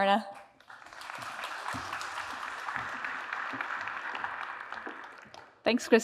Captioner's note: applause